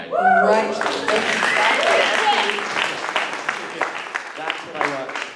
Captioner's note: cheers